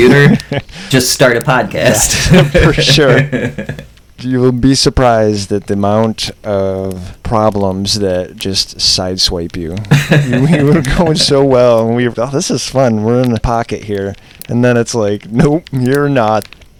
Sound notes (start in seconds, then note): 2.0 laughter